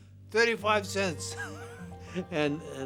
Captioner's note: chuckles